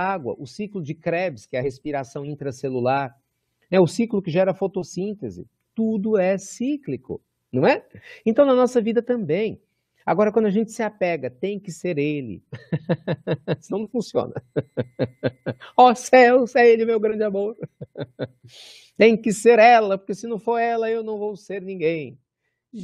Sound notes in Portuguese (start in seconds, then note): 15.1 risos; 17.9 risos